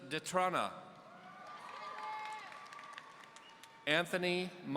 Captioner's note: audience cheering